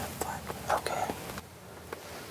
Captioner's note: whispering